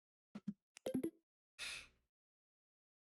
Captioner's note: sniff